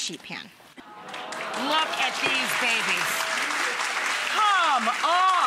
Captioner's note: audience applauding